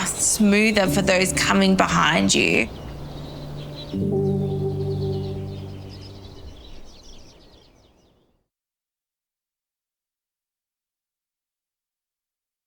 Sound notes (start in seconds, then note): 4.1 birds tweeting; 4.1 gentle music continues